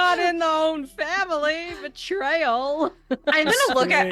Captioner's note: laughing